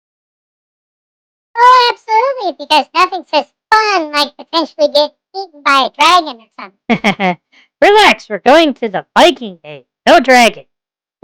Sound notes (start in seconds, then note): 1.9 sarcastically; 6.9 laughs